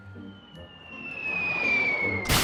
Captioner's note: air whistling